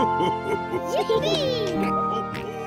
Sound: dad giggling

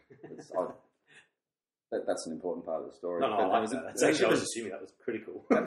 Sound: laughs; laughs

